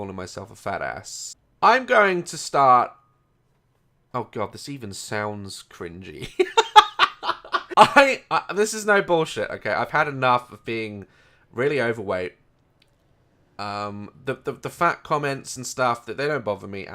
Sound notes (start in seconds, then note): 6.3 giggles